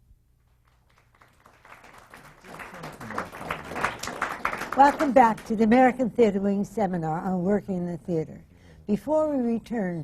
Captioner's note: applause